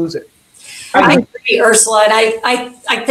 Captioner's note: speaks faintly